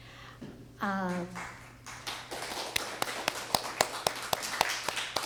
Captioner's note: applause